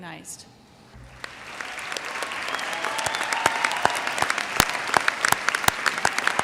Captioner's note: audience cheers and applauds